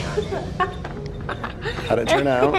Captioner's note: exciting music; laughing